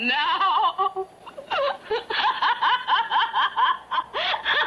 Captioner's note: laughing